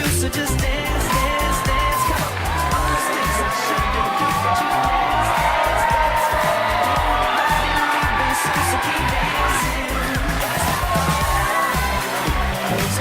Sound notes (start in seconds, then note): 6.4 cheering